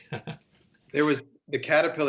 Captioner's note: laughing